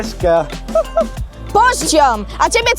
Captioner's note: laugh